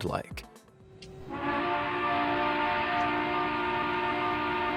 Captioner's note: long horn blowing